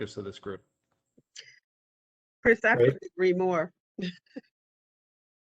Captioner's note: laughter